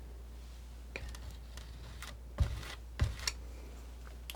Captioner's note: scratching